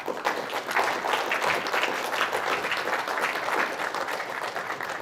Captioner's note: audience applauding